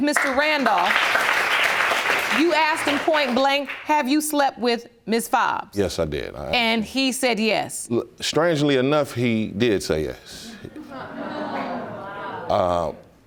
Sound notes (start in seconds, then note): 0.1 audience applauds; 10.7 audience murmuring